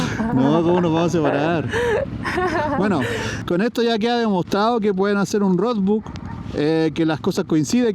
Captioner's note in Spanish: risas